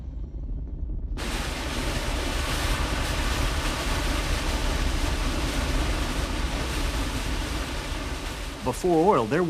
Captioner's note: oil sprays